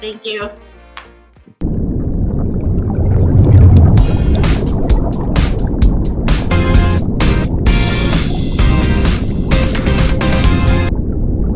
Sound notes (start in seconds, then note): 1.6 water gurgling; 4.0 upbeat music